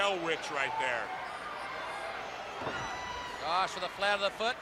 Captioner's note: crowd chatter